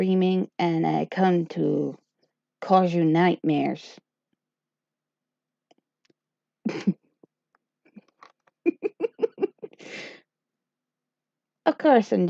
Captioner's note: laughter